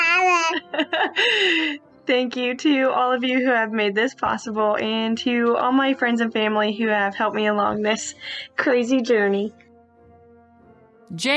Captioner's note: baby noises; laughing